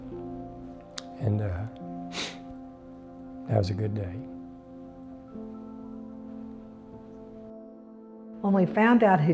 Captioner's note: sniffing